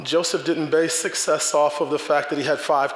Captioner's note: none